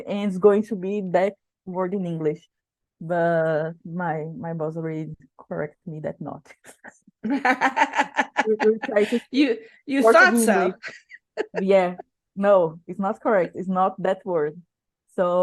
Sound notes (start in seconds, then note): 7.2 laughing